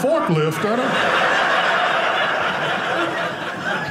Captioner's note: audience laughing